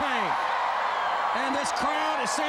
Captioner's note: crowd cheering